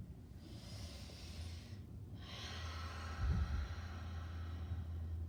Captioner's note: breathing deeply